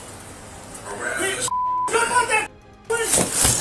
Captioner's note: beep; blinds clatter